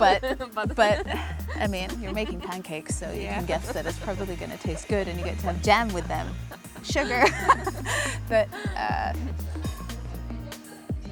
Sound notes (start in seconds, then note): 0.7 laughing; 7.7 both laughing